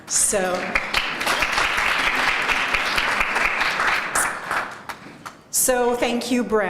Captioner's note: applause